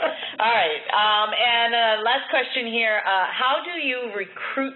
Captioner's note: laughter